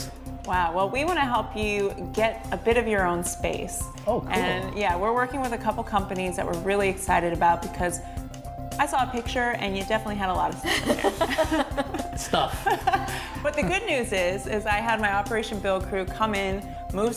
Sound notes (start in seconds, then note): 13.1 laughter